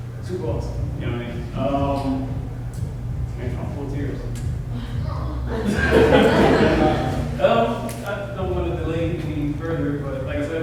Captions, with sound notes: TOO AWESOME. YOU KNOW WHAT I MEAN. UMM... THAT MAN TRYING TO PULL TEARS. [LAUGHTER] UM... I DON'T WANT TO DELAY ANY FURTHER. BUT LIKE I SAID